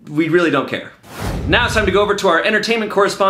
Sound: air whooshing

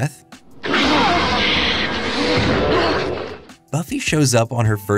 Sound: roaring

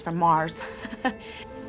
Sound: chuckle

